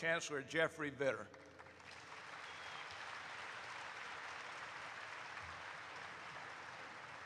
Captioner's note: audience applauds